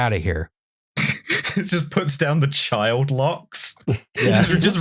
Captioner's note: laughing; laughs